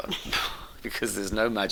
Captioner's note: both chuckle